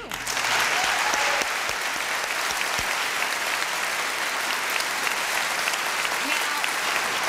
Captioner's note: applause